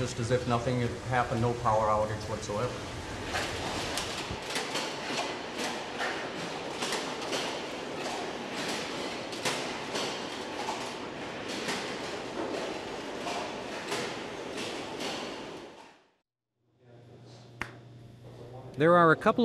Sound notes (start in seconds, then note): 4.2 machinery noises